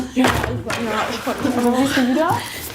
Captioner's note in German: Stimmengewirr